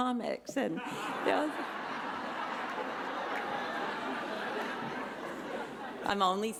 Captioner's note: laughter